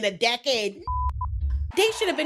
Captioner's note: beep